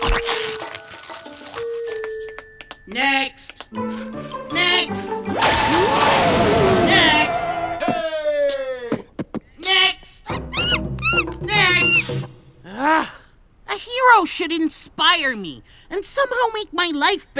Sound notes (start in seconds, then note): 5.4 lightning crashes; 6.6 beat-boxing; 10.3 monkey screeches